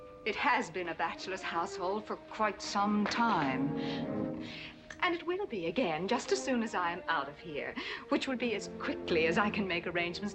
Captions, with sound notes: It has been a bachelor's household for quite some time. (gritting teeth) And it will be again just as soon as I'm out of here... which will be as quickly as I can make arrangements